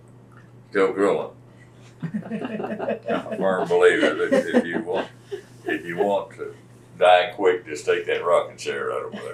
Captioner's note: laughter